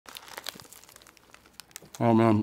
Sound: burger crunching

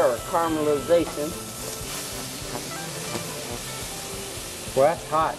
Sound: sizzling sound

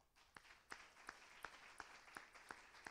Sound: applause

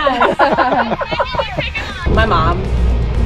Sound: laughing; talking

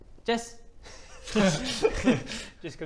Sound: laughs

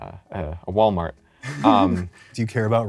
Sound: laughs

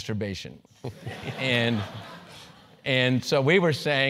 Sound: laugh

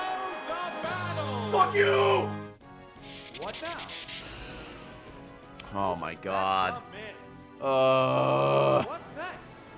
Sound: groans

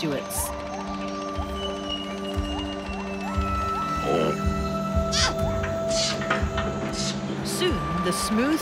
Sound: wildlife noises, music playing

